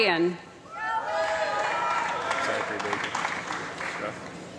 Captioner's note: applause